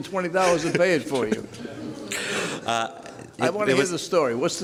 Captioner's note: laughter